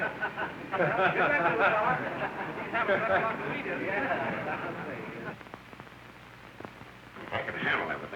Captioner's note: laughter